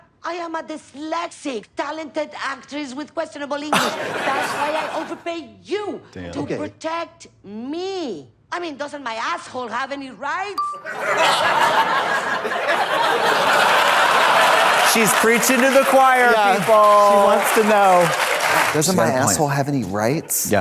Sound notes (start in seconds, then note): 10.6 pause chime dings; 11.5 audience laughs